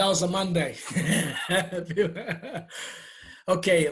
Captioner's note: laughing